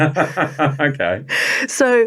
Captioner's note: laughing